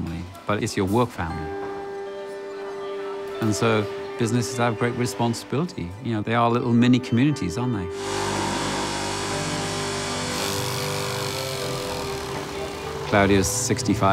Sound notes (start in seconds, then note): 7.9 machines buzzing